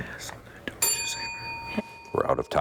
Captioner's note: bell ringing